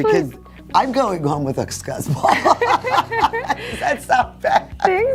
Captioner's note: laughter